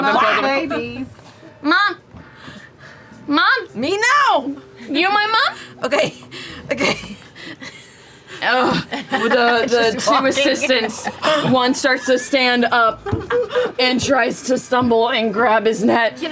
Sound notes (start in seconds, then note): 1.3 yelps; 5.8 laughs; 8.4 groans; 10.2 laughs; 11.2 exertion